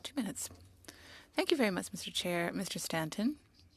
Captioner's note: speaking French